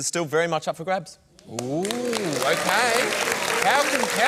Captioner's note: applause